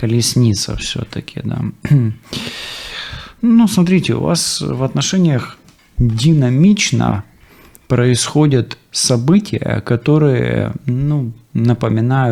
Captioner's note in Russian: откашливается